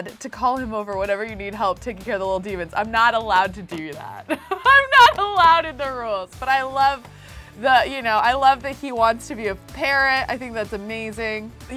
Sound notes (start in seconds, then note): 4.2 laughs